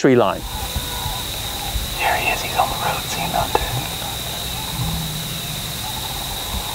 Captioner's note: whispering